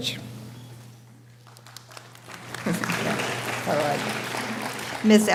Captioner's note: scattered applause